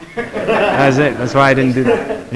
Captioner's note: students laughing